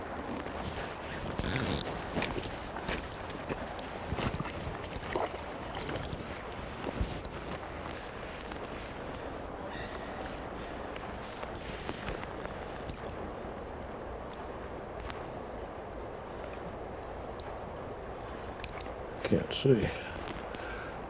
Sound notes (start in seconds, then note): 1.7 walking